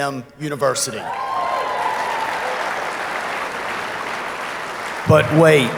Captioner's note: audience applauding